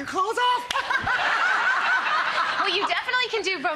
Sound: everyone laughs

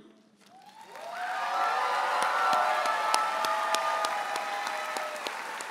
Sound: audience applauds and cheers

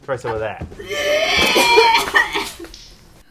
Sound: vomit sounds

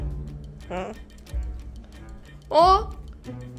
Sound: jealous nasal sounds

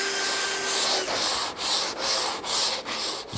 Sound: planing noise

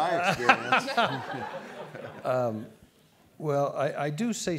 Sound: all laugh

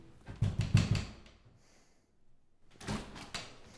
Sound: banging on door

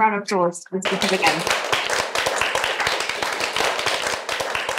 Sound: applause

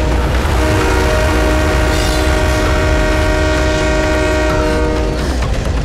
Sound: train horn blares

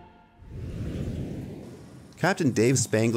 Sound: whooshing

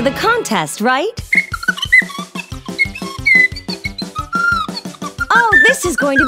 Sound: chirps

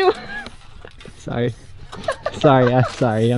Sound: laughing

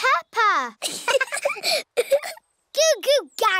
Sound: both laughing

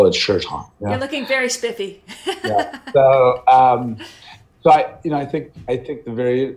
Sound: laughs

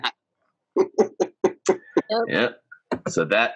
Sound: chuckles

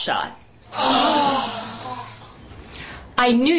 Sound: sighs

